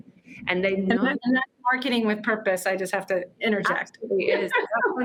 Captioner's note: laughs